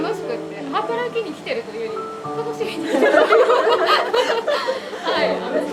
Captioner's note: laugh